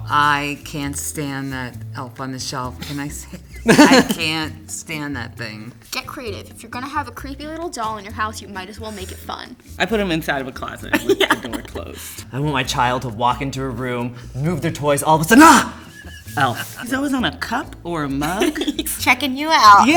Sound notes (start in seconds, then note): 2.8 laughing; 10.8 laughing; 15.2 yells; 15.3 laughing; 18.2 laughing